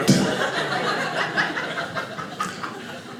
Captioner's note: audience laughing